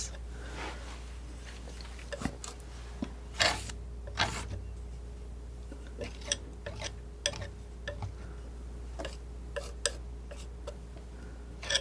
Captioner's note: scraping